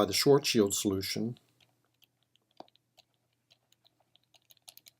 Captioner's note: typing